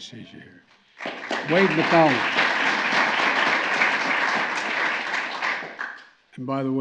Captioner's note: applause